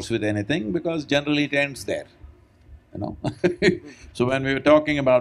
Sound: laughs

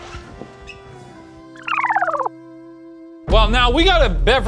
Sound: film rewinding

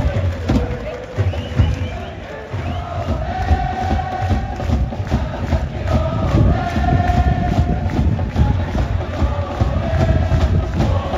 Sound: mascot chant

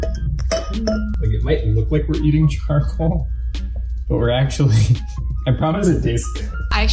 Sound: laughs

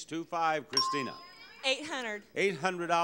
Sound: bell dings

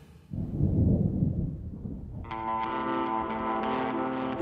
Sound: thunder rumbling

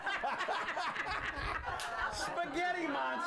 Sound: laughter

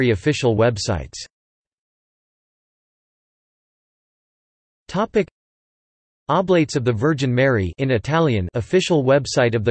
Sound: in Italian

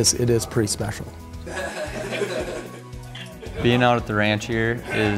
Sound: laughing, indistinct conversation

